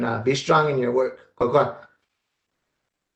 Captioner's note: speaking in native language